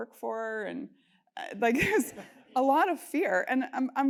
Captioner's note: laugh